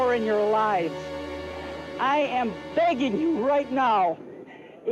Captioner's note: voice breaking